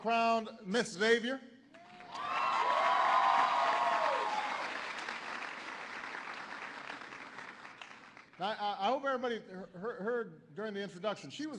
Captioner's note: applause